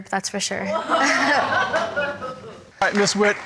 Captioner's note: audience exclaims